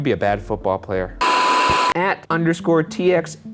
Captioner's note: beep